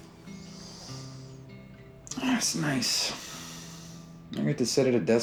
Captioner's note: sniffing